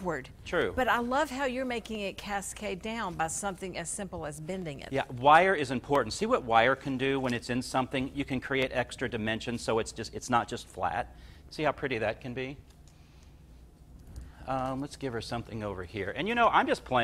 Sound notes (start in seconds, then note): none